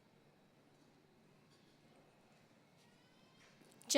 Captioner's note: none